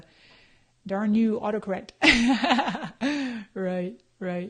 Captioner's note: laughs